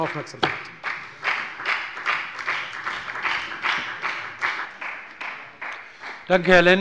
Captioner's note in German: Beifall bei der FDP